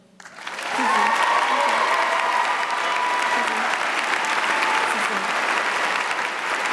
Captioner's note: audience cheering and applauding